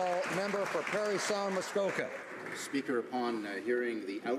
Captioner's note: applause